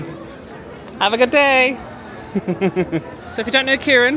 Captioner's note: chuckles